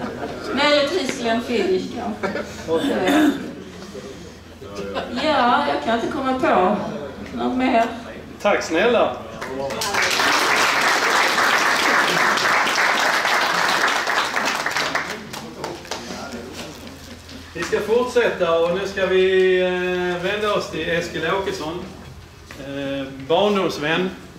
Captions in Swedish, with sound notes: Möjligtvis Glenfiddich kanske. Ja , jag kan inte komma på något mer. Tack snälla. [Applåder] Vi ska fortsätta och nu ska vi vända oss till Eskil Åkesson - barndomsvän.